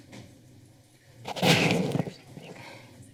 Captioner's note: rustling